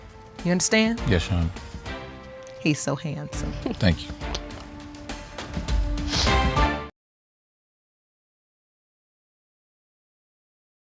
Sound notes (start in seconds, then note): 5.8 sniffles